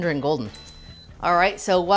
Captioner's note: short beep